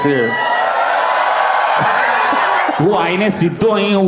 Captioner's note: crowd applauding